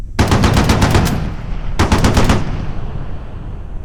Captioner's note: gun fires